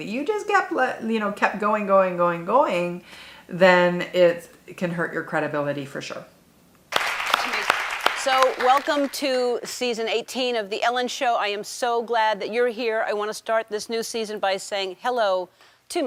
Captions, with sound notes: that you just kept going, going, going, going, then it can hurt your credibility for sure. (audience applauding) - So welcome to season 18 of The Ellen Show. I am so glad that you're here. I want to start this new season by saying hello